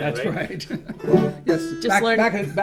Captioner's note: chuckles